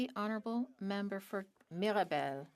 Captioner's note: speaking French